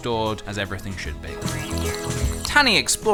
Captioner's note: slurp